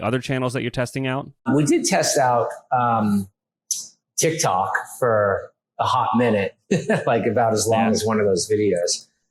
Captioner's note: laughs